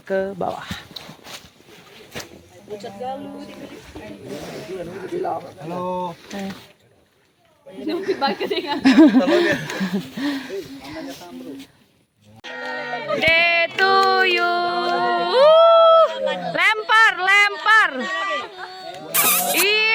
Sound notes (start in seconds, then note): 7.8 laughs